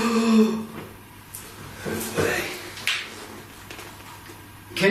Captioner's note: inhales sharply